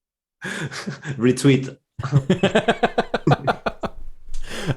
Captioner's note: laughter